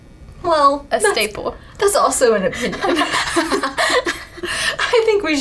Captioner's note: laughing